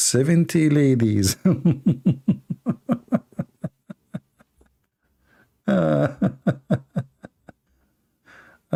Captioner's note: Ketawa